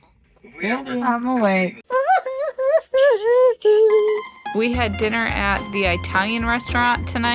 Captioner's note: crying